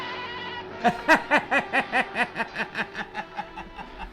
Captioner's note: Brad laughing